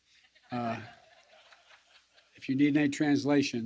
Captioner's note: laughter